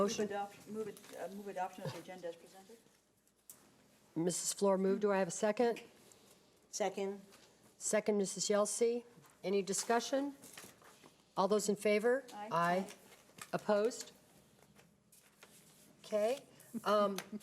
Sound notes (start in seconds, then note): 14.6 silence